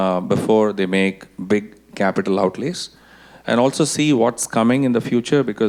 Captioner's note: none